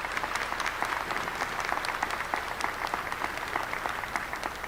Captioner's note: applause